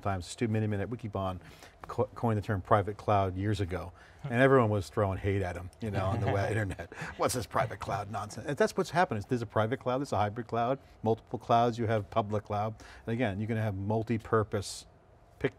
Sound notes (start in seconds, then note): 5.8 chuckling